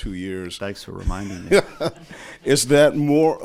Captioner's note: reporter laughs